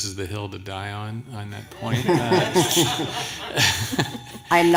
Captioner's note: laughter